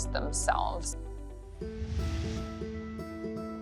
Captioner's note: swoosh